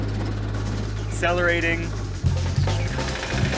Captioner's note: engine sputtering